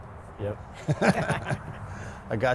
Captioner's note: laughter